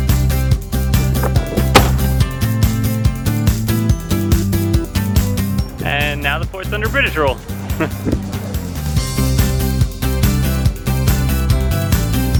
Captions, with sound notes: *pow!* and now the fort's under British rule.